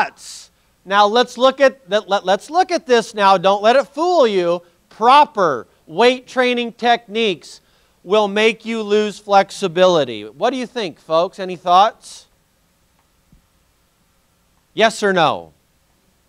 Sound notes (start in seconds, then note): none